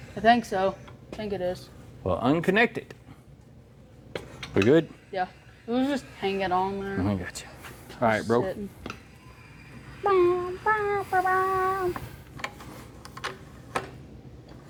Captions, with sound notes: I think so. I think it is. Well, unconnected. We good? Yeah. It was just hanging on there. I gotcha. All right, bro. (Humming)